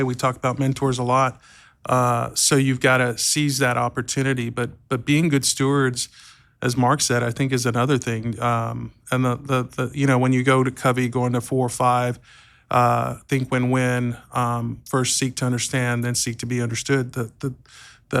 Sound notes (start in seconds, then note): none